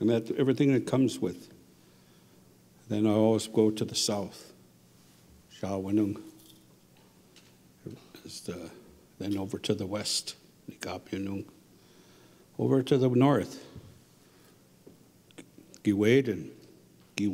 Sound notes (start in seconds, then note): 0.0 speaking Ojibwe; 5.4 speaking Ojibwe; 11.5 speaking Ojibwe